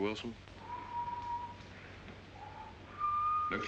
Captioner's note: charles whistles